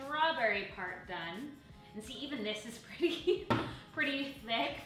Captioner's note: chuckles